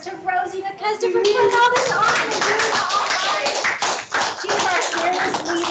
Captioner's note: clapping